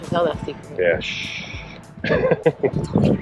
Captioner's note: laughing